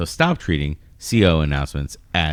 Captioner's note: uh